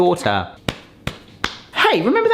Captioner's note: hand patting